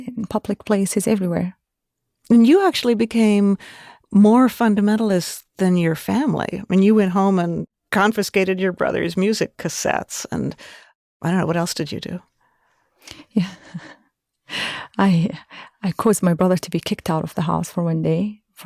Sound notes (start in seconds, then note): 13.4 chuckling